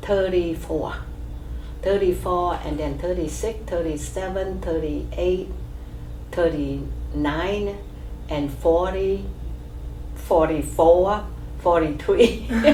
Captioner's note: laughs